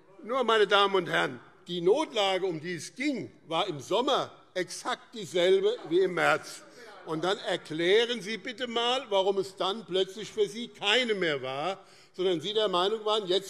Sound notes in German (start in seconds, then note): 6.9 Zurufe AfD